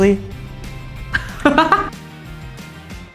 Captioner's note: laughter